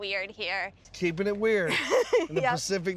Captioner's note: laughing